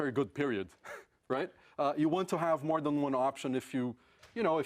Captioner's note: laugh